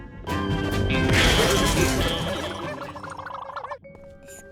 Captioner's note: western music; thief twirls and blubbers